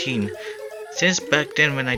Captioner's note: inhales